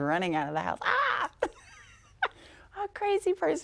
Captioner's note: laughing